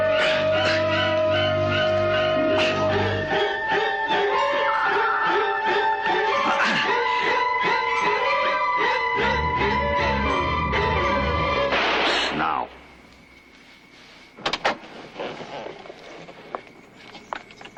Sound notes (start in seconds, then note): 11.7 gunshot